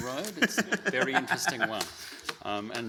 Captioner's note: laughing